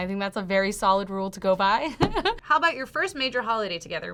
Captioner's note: laughs